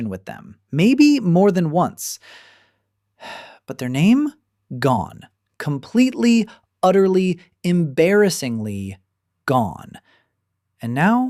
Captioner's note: sighs and gasps